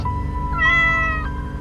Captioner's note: meow!